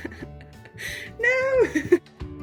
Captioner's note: laughing